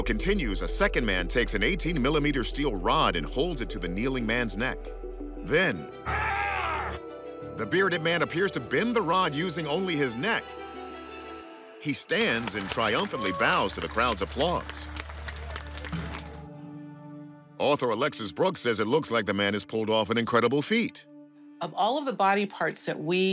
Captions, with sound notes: a second man takes an 18mm steel rod and holds it to the kneeling man's neck. -Then... -[man grunts] ...the bearded man appears to bend the rod using only his neck. He stands and triumphantly bows to the crowd's applause. [applause] Author Alexis Brooks says it looks like the man has pulled off an incredible feat. Of all of the body parts that we...